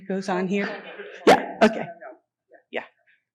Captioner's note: murmuring